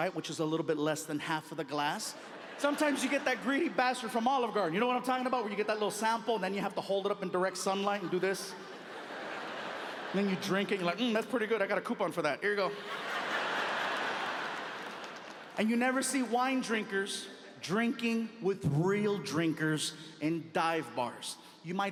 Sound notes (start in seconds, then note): 7.2 audience laughing